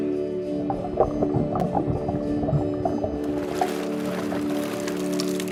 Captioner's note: bubble and water sounds